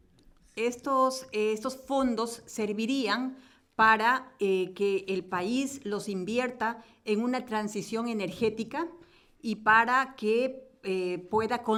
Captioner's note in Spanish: Español